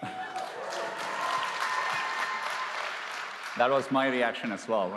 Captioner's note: cheers and applause